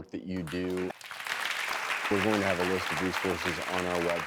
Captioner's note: audience claps